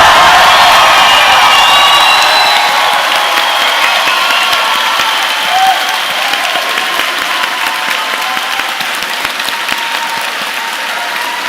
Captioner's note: cheering loudly